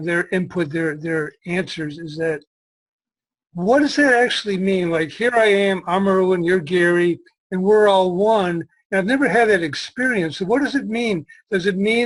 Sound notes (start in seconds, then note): none